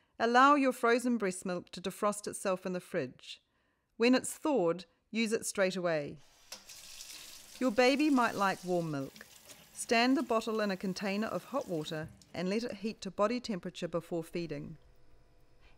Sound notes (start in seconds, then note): 6.4 sound of running tap; 11.5 sound of running tap